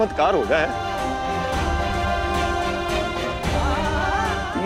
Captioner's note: emotional vocalising